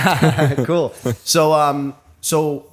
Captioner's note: laughter